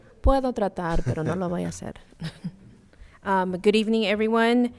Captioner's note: speaking in foreign language